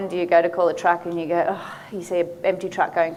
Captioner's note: sighs